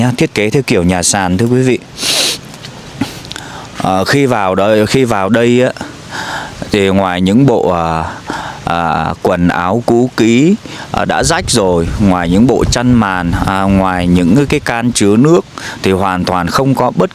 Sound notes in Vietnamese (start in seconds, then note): 1.9 khịt mũi